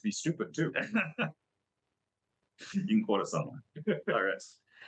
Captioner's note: rires